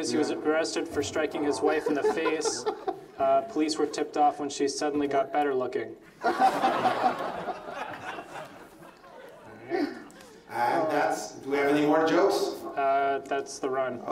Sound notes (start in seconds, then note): 1.2 laughs; 6.2 laughs